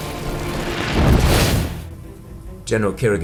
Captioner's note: fire whooshes